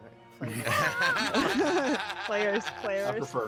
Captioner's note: group laughs